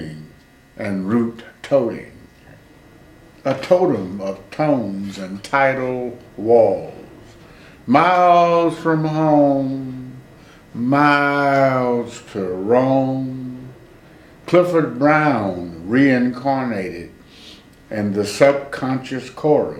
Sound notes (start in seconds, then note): 8.2 employs a singing tone